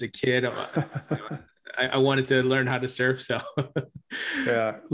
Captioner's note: laughs